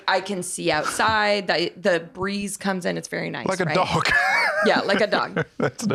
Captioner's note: laughing